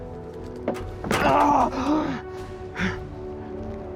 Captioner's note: coughing; grunt